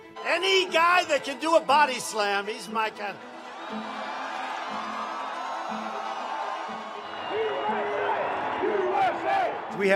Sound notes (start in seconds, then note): 3.6 audience cheering